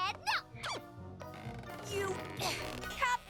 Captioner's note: creak!; squeak!